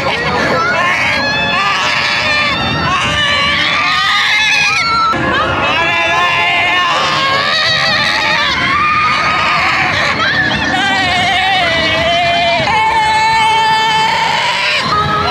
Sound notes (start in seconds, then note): 5.2 a symphony of screams